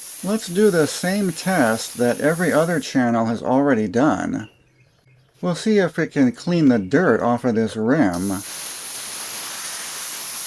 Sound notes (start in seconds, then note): 8.1 hissing sound